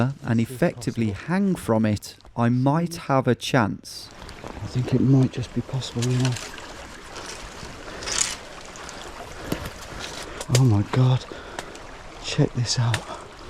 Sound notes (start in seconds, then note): 5.9 branches cracking